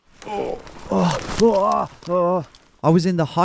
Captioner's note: groaning